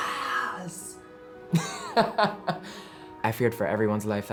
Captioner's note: laughing